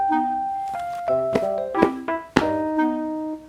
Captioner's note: smack